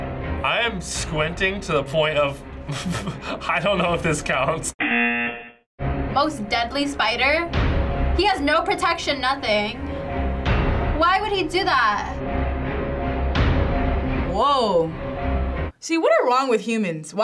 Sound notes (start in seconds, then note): 2.6 chuckles; 4.8 buzzer